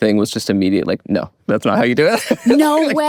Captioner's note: Owen laughing; laughs